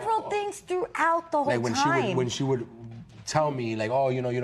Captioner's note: none